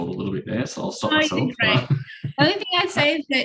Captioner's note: laughs